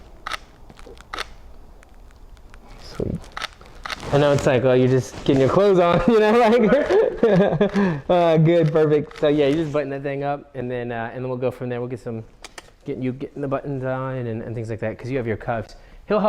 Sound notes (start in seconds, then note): 5.9 laughs